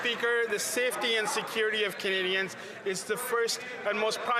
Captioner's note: some Applause